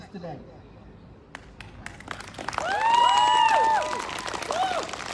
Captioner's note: whooping; applause